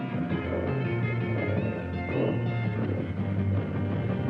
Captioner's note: growling